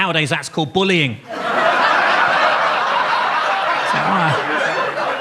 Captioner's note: audience laughs